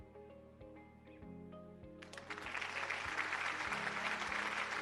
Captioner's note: applause